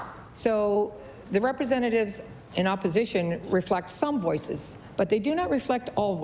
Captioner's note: applause